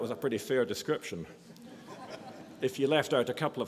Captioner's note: audience laughs